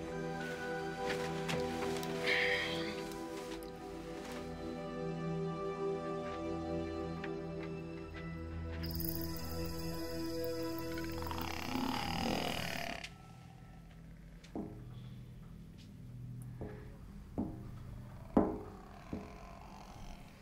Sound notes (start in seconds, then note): 9.8 croaking; 17.3 light knocking